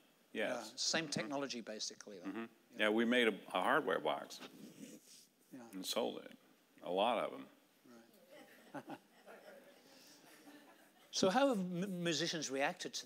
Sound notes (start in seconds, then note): 8.3 audience laughing